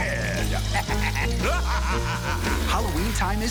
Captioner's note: laughter